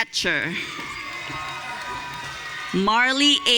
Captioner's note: audience cheering